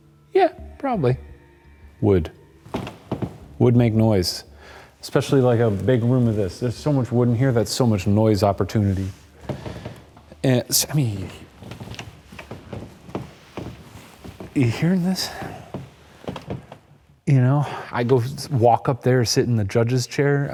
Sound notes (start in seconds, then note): 2.7 wood thuds; 11.8 wood creaking